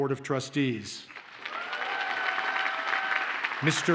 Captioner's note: audience cheers and applauds